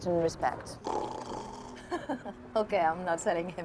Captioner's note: Tom "snoring"; Eloise laughing